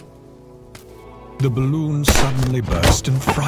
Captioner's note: balloon popping